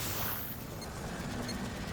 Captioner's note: beeping, whirring